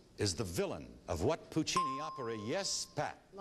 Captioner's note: ding